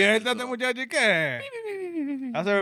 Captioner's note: speaking Spanish